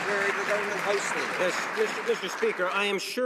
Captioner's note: some Applause